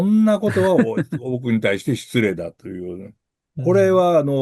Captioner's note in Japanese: 笑い